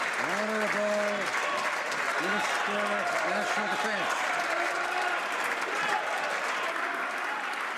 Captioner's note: some Applause